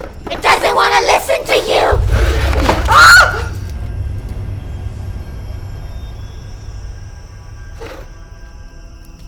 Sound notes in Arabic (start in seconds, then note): 2.5 صراخ; 3.6 موسيقى مخيفة